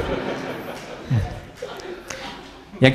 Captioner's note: laugh